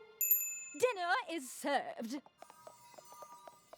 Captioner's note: bell dings